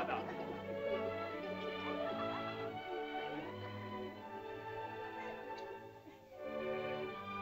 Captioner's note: children giggle; soft music; sentimental music